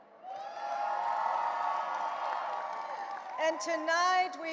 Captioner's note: audience cheering and applauding